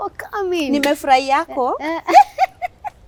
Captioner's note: said in Luhya accent